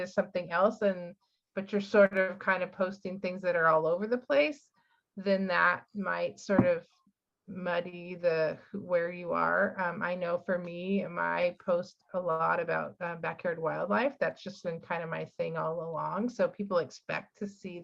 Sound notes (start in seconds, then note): none